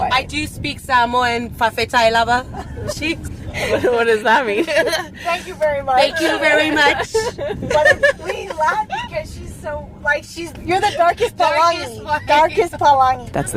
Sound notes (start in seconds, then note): 2.4 speaking Samoan; 2.5 laughs